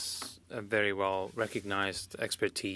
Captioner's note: speaking French